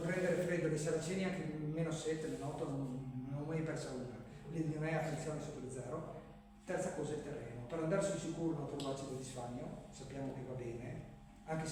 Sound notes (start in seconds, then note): none